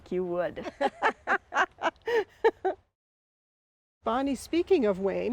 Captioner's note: both women laughing